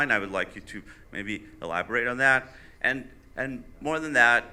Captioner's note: none